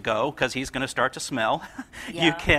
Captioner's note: laughs